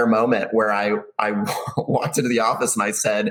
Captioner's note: chuckles